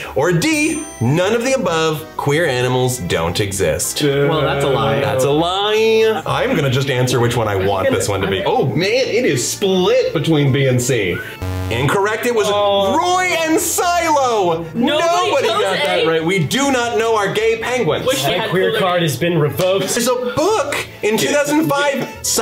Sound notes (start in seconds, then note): 11.4 buzzer hums softly